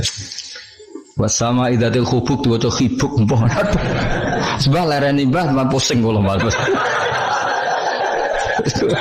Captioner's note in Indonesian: tertawa